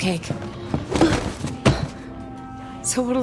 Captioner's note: gasp, hand slam